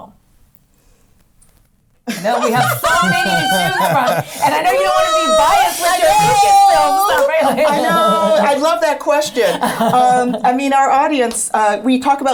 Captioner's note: laughs